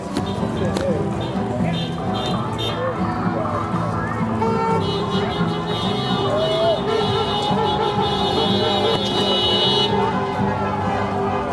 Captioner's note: cheers